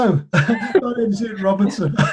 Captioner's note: laughs